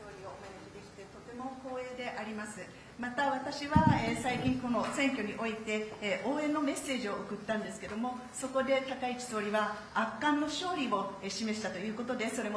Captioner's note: speaking Japanese